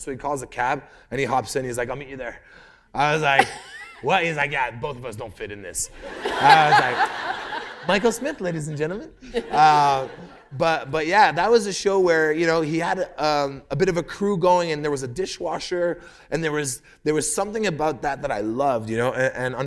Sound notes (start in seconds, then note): 5.9 laughter